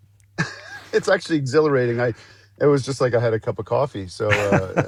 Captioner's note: laughs